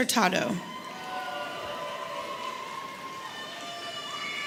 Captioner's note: audience cheering